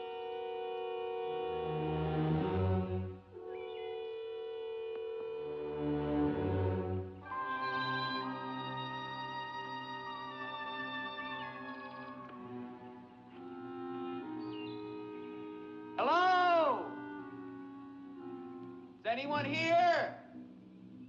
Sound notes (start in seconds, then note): 7.3 birds chirping; 8.1 ominous music